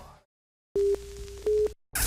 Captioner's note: beeping